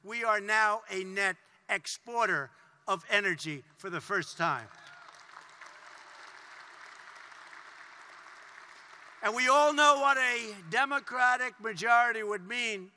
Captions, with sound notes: We are now a net exporter of energy for the first time. (Applause.) And we all know what a Democratic majority would mean,